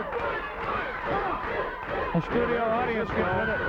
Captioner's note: crowd cheering